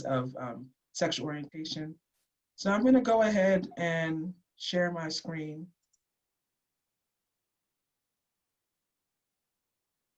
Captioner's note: silence